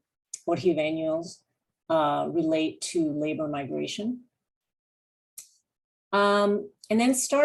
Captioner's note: non-english